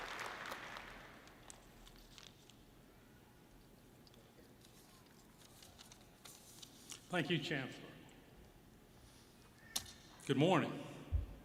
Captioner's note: applause